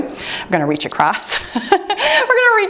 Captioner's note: timer beeps